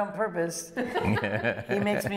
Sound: laughter

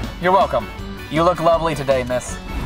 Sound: voiceover

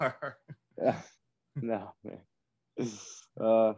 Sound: laughing

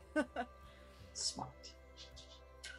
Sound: laugh

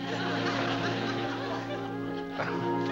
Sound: laughs

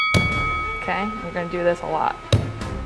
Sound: bell ringing; cutting coconut; cutting coconut

